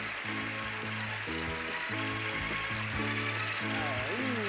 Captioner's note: audience applauding